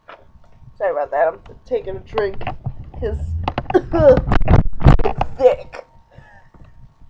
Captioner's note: creaking, coughs